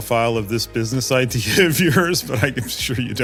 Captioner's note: laugh